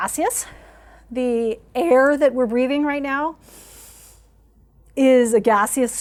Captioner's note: inhaling